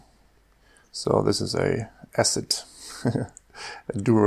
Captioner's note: chuckles